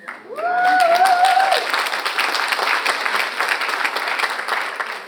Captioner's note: audience applauds